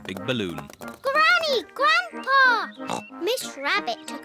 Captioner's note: oinks